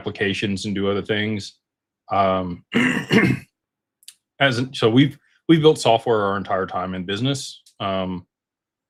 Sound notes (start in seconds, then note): 2.6 cough and clears throat